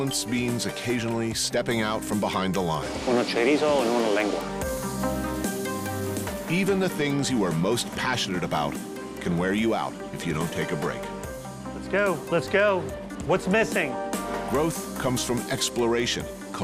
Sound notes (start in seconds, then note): 2.1 ordering in Spanish